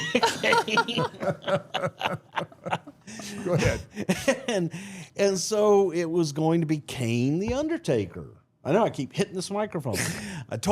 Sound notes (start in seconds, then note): 0.0 group laughs